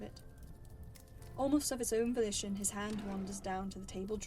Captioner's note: drawer opens